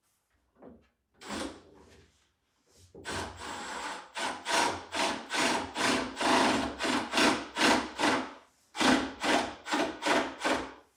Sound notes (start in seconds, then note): 1.9 drill whirring